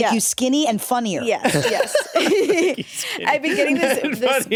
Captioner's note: laughs